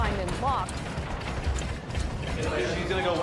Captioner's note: door banging